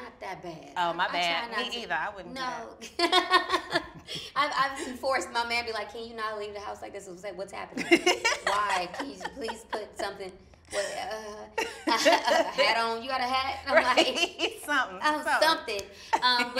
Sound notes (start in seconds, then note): 2.8 laughs; 7.8 laughs; 11.3 laughs